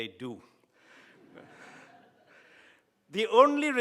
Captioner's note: laughs